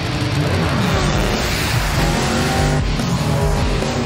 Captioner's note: engines revving